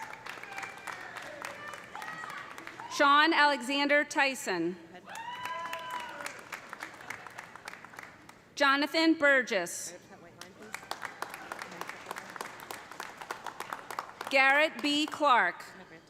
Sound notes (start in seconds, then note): 0.0 audience applauding; 0.0 audience cheering; 5.1 audience cheering; 5.2 audience applauding; 10.6 audience applauding; 11.0 audience cheering